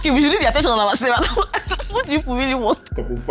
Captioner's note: laughs